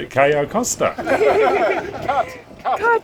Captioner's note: laughs